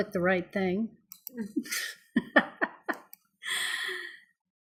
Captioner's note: laughing